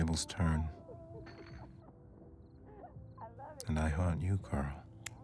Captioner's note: glass clattering; lighter clicking